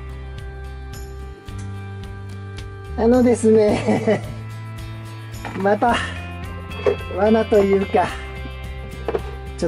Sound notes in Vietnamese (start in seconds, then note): 3.7 cười lớn